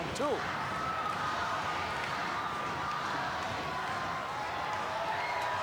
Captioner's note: audience cheering